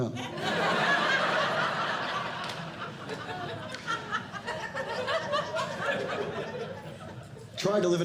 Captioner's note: audience Laughing